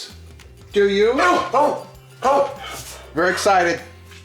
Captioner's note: Henry barking